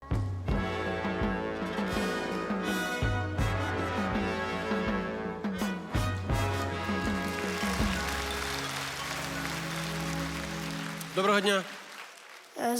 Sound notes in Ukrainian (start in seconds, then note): 0.6 оплески